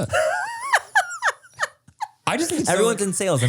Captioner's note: laughs